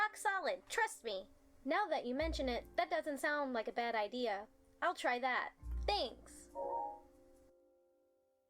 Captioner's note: digital sound effect